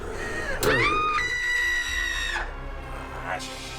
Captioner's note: Emma panting; Emma screaming